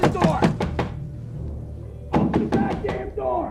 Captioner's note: loud banging